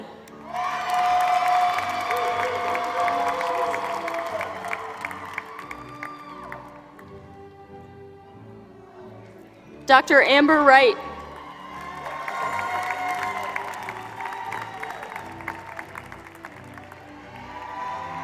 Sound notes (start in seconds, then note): 0.3 applause; 11.1 applause